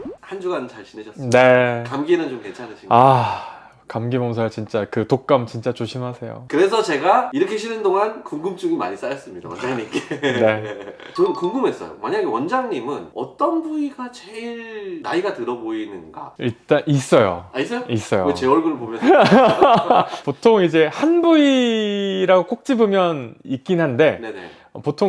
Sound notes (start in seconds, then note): 19.0 haha